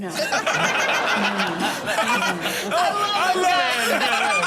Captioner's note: audience laughs